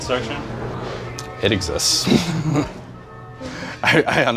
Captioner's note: laughs